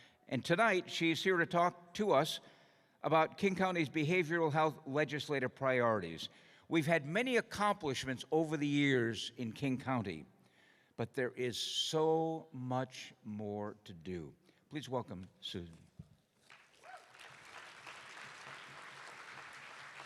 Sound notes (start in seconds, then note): 16.4 applause